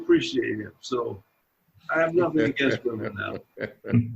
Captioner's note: voice muffling